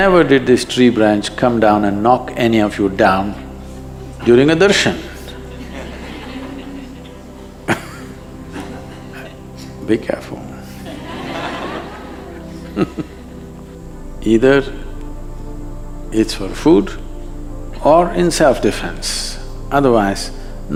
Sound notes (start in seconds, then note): 5.3 few laugh; 10.8 laughter